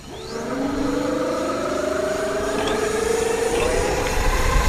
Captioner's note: engine revs; engines roars